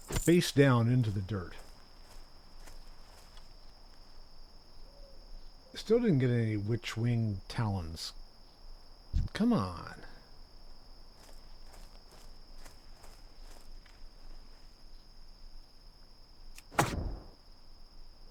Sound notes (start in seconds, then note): 3.2 crickets chirping; 11.0 screeches; 17.0 crickets chirping